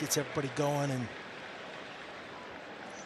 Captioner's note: applause